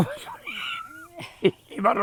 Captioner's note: laughs